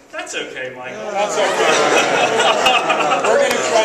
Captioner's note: laughs